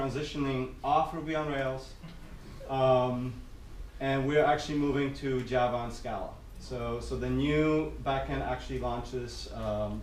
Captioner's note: giggles